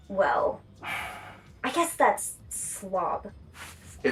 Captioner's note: sighs